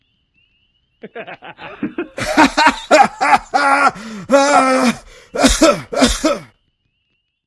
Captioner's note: laughter